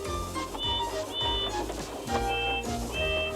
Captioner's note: toot toot